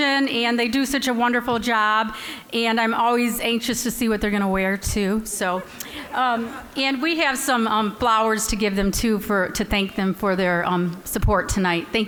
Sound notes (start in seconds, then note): 5.4 all laughing